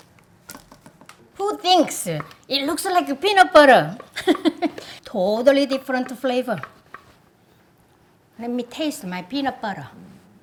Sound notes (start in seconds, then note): 4.1 laughs